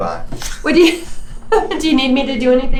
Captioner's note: laughs